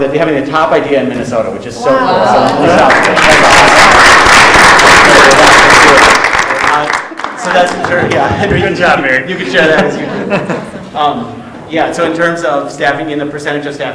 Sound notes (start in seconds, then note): 2.2 all applauding